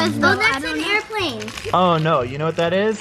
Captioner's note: group chatter